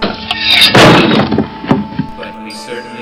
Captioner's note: blade chops